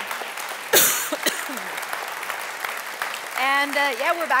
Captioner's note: coughs